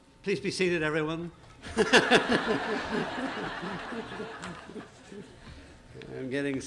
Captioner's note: laughter